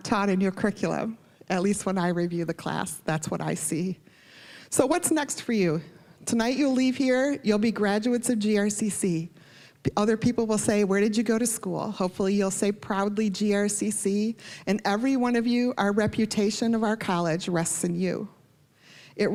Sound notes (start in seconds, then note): none